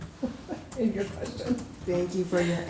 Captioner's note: chuckling